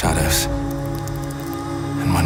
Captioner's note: bell tolling